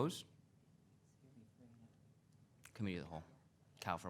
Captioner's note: council member whispering